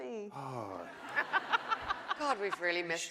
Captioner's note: laughing